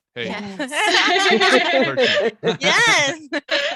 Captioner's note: all laughing